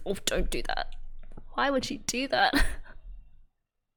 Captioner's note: laughs